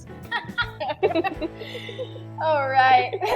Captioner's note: both laughing